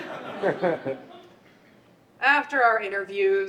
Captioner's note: audience laughs